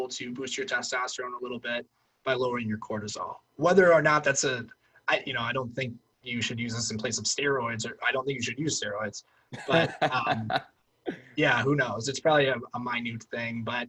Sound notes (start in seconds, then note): 9.5 laughs